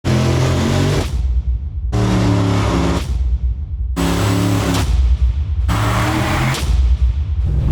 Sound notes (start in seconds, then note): 1.8 car revving